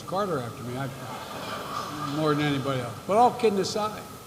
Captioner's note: laughter